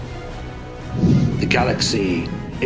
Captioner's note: winds whooshing